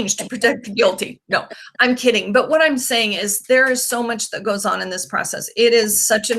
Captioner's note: laughing